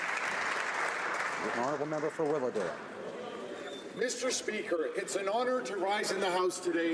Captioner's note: applause